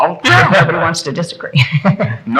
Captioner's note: laughing